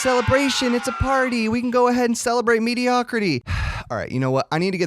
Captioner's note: sigh